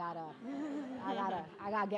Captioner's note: audience laughing